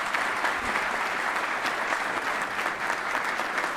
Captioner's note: applause